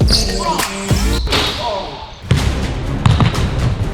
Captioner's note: upbeat pop music; ball hits rim; upbeat orchestral music; ball bounces